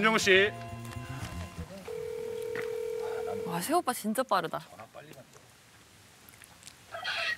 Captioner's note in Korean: 휴대전화 통화 연결음